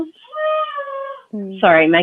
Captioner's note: baby cries